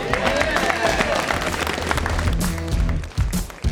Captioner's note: applause